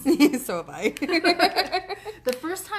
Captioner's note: laughing; laughs